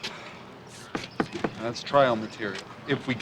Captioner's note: finger thudding